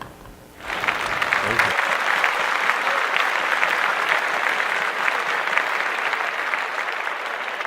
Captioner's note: applause